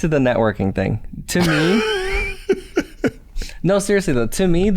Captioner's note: chuckles